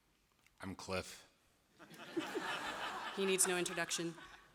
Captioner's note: laughter